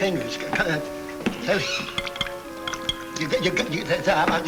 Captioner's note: Danny stutters